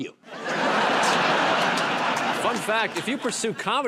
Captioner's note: laughter